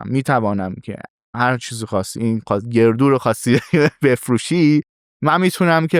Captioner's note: laughs